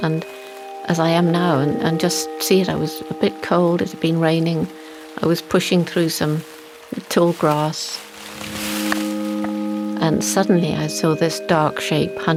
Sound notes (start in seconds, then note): 8.1 grass rustling; 8.1 tranquil music